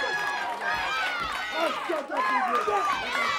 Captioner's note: crowd cheering